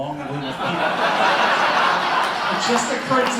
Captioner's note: laughter